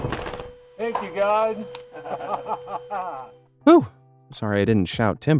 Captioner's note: men laughing